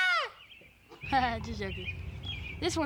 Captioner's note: laughs